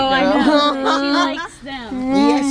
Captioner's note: laughing